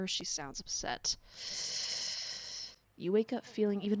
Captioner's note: nervous breath